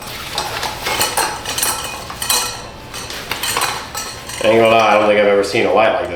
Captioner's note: metal Clanking